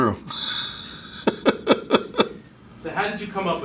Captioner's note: laugh